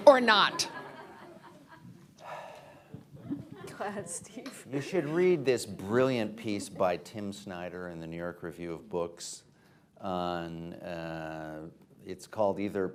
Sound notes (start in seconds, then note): 0.5 laughter